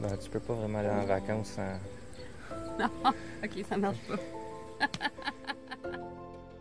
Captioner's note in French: rires